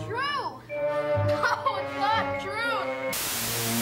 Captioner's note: crying